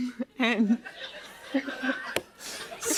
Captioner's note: laughter